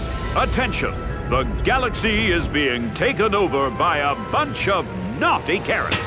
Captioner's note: none